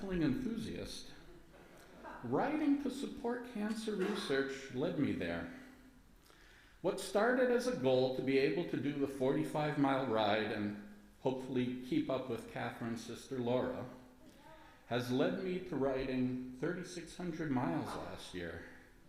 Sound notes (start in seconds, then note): 1.2 light laughter from congregation